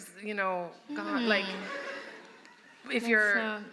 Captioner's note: laughter